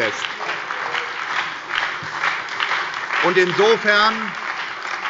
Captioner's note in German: Beifall bei der SPD und der FDP